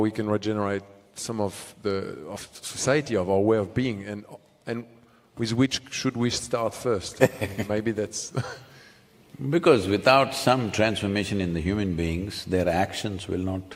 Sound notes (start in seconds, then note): 7.2 Sadhguru laughs